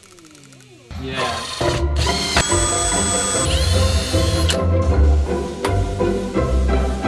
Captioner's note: soft clicking; drilling